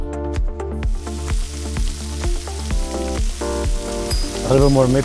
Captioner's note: sizzling sounds